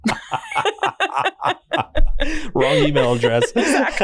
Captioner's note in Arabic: كلاهما يضحك